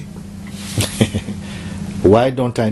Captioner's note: Mooji Laughs